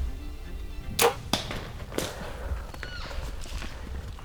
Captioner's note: arrow clicking